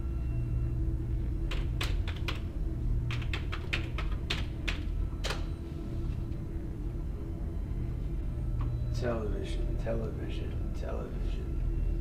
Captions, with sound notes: (keyboard clicking) - Television, television, television.